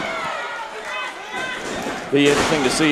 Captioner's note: crowd cheering